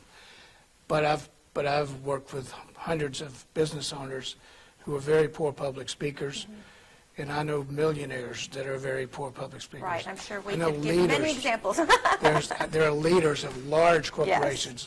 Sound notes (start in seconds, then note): 10.7 laughing